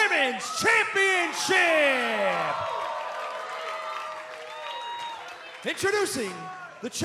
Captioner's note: cheers and applause